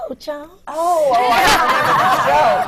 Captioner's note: laughter